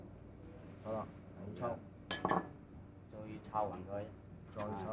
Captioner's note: speaking Chinese